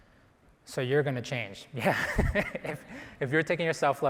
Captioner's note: chuckles